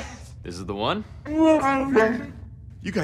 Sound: wookie speak

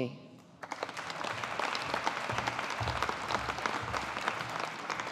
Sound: audience applauding

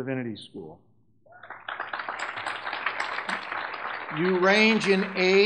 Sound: audience clapping

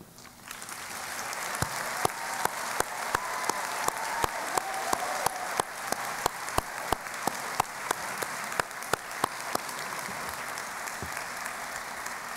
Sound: applause

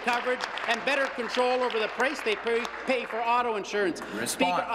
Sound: applause

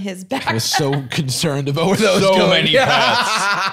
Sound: laughs

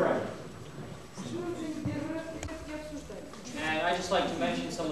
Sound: non-english speech

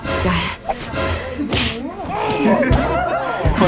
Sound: laughs

